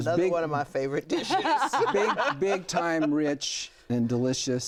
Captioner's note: laughs